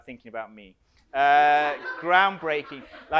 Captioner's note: audience laughs